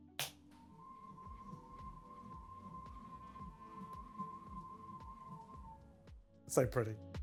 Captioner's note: whistling Sound